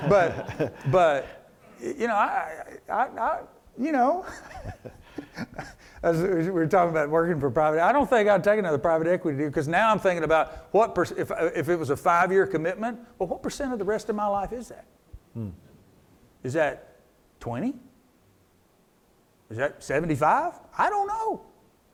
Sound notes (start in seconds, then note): 4.2 both laugh